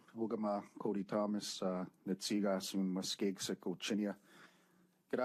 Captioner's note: speaking French